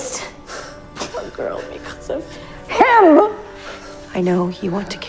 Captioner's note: shouting